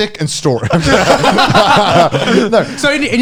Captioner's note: all laughing